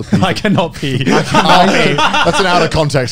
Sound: everyone laughs

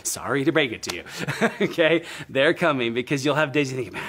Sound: laughs

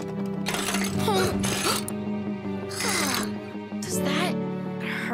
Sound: gasping

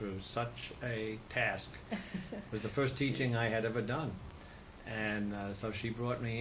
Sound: laughter

